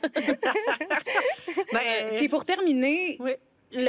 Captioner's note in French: rires